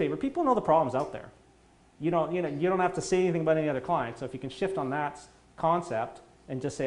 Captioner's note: none